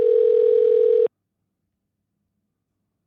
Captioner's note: phone ringing